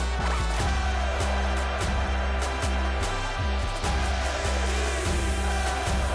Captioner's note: crowd continues shouting; victorious music continues